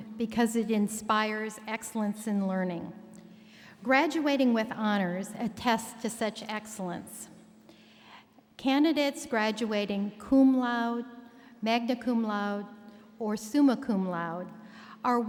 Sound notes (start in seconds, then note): none